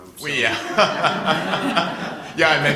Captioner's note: laughter